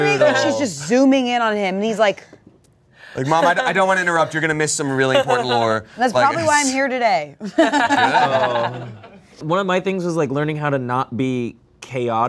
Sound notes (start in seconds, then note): 7.5 everyone laughs